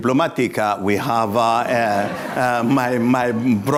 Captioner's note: laughter